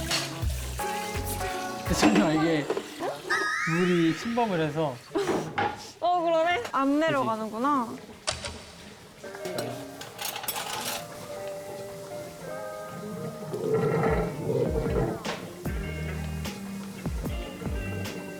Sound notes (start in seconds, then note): 14.5 the sound of water draining!